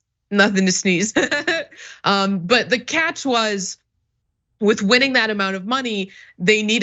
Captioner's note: laugh